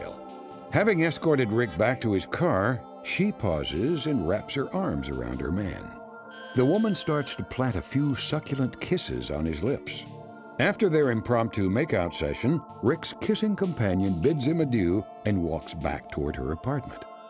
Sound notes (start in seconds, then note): 6.2 scanning beep